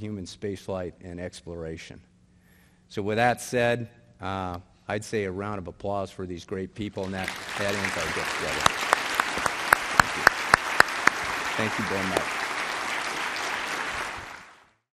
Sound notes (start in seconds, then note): 7.0 applause